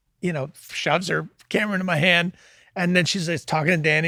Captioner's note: none